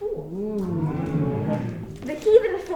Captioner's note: crowd oohing